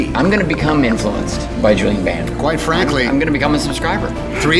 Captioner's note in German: lacht